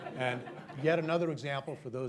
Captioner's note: laughter